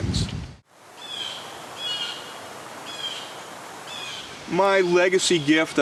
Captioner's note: water running; birds chirping